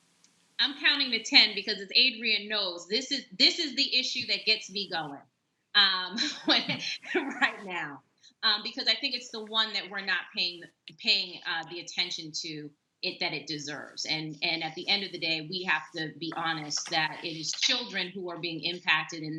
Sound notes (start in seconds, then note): 6.2 laughs